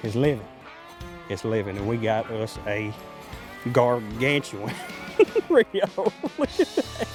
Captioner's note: laughing